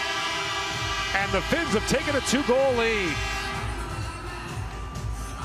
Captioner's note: horn sounding